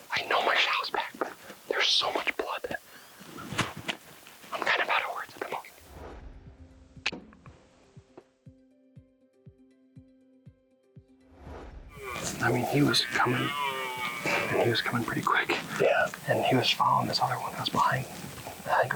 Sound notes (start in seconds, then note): 5.8 relaxed music; 11.9 stag bellowing